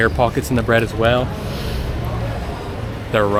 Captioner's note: sniffs